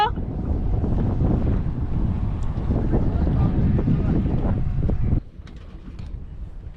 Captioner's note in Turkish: Rüzgar sesi